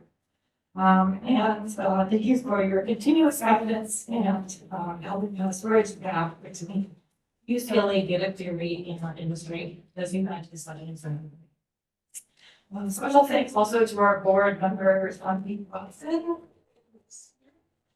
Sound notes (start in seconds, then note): 9.7 speaking faintly